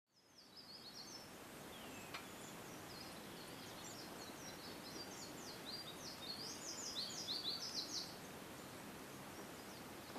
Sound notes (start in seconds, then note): 2.3 nature sounds